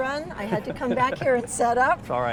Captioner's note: laughs